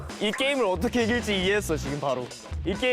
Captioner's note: confident